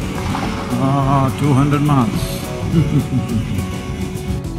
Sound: chuckles

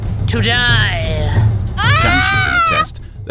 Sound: Samshee screams

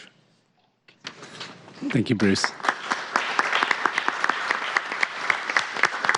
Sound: applause

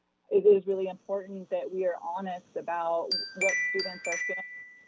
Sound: chime

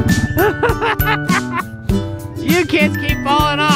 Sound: laughing

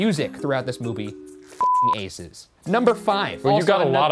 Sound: beeping

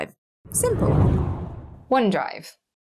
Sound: air whooshes

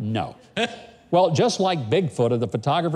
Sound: giggles

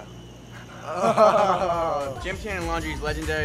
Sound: laughing

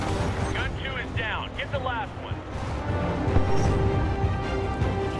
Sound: radio

